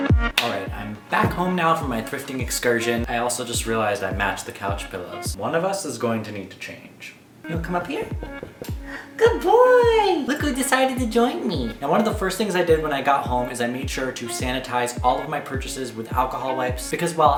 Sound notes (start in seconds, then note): 8.8 gasp